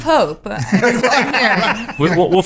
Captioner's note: laughing